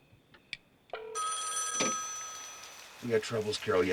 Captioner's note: telephone ringing